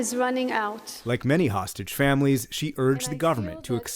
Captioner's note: voice-over